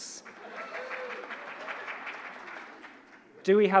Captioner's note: audience applauding